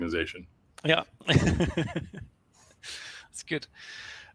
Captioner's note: laughs